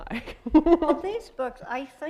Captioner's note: chuckle